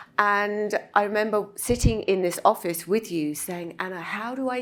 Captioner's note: none